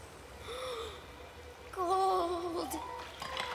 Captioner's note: gasp